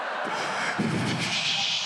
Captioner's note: audience laughs; breathes frantically